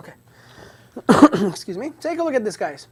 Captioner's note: coughs